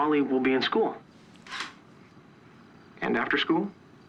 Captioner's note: scoffs